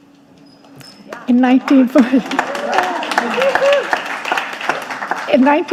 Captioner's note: audience applauding